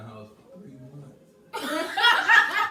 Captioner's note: laugh hysterically